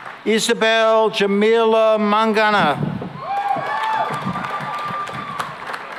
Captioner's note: cheering and applause